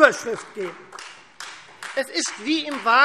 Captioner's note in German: Beifall Freie Demokraten, vereinzelt SPD und AfD